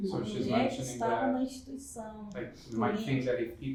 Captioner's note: speaking portuguese